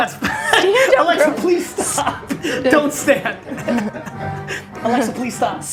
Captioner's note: laughs